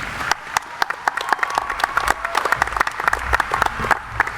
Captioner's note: audience applauding